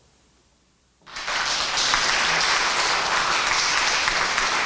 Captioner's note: applause